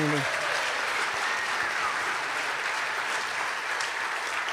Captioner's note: cheers and applause